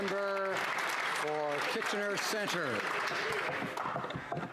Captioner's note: some Applause